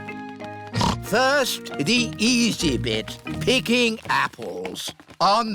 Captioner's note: snorts